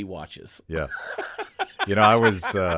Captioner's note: Chad laughing